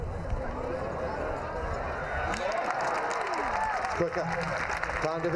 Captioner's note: crowd ooh-ing, cheers, clapping